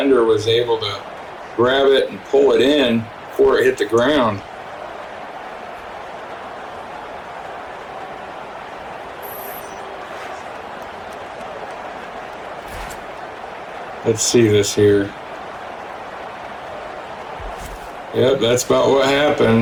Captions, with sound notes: was able to grab it and pull it in before it hit the ground. [Crowd cheering] Let's see this here. Yep, that's about what happened.